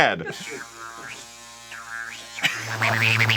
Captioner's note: soft nubbin against skin sounds louder